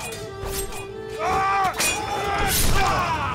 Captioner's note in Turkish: Kılıç sesleri; Haykırıyorlar